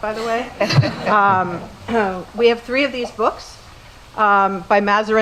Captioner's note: laugh